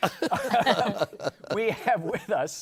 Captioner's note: laughter